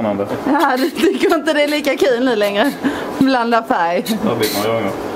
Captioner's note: laughter